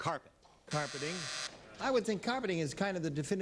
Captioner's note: buzzer